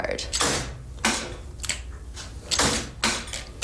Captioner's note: clicking, banging